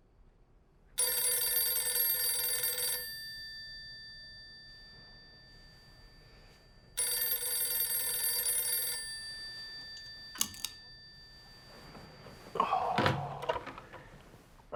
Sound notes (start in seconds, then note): 1.0 phone ringing